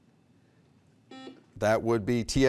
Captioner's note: beep